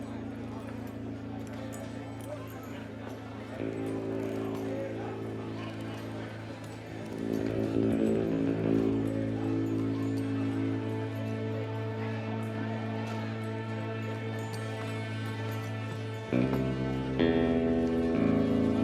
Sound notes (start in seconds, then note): 1.5 saloon chatter